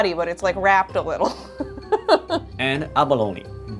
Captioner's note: chuckling